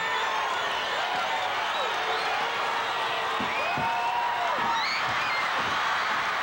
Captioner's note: audience cheering continues